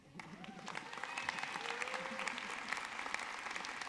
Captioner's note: audience clapping